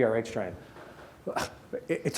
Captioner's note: scoffs